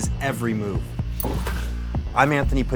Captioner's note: bloop